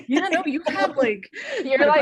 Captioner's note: laughing